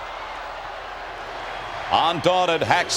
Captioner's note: audience chants